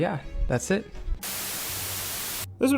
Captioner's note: TV static